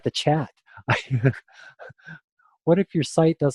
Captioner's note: laughter